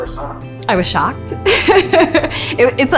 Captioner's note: se ríe